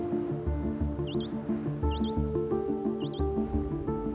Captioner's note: birds chirping